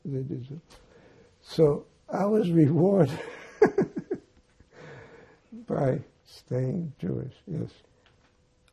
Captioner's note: laughing